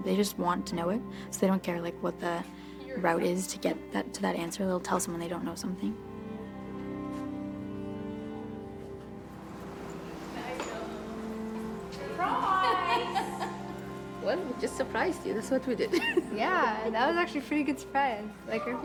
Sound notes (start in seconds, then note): 12.1 laughs